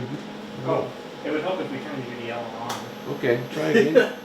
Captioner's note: laughter